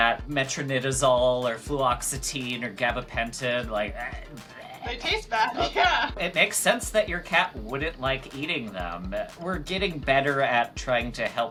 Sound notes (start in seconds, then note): 4.4 vomiting noises